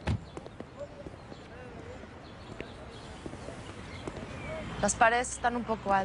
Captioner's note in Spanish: Portazos; Se escuchan voces